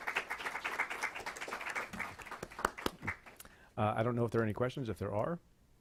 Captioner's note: clapping